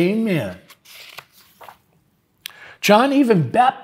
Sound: pages rustling

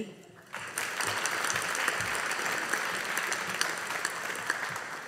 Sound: audience applauding

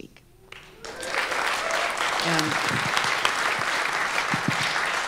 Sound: audience applauding

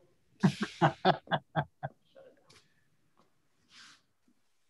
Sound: laughing

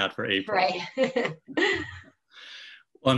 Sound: laughing

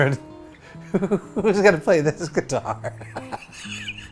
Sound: laughs

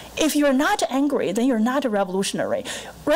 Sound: none

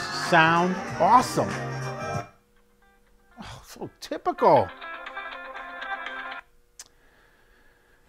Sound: phone rings

